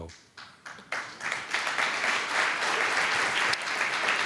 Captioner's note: applause